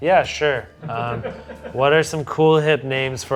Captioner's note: crew member laughing